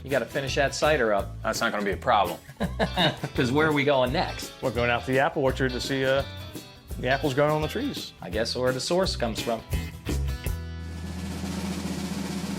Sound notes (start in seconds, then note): 2.4 laughs; 10.8 drum roll